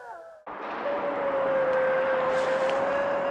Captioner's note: eerie howl